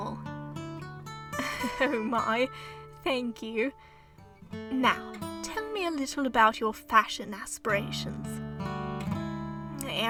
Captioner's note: chuckle